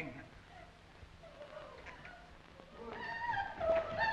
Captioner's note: woman sobbing